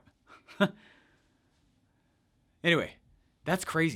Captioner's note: laughs